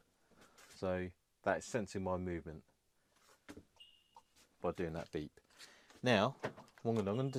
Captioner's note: beep